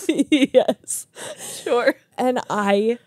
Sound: laugh; laughing

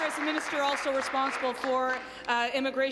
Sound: applause

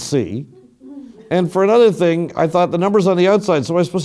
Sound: laugh

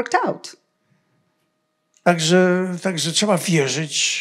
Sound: foreign language

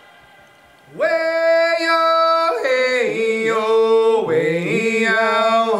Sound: foreign vocalizing

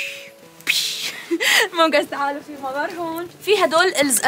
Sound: chuckles

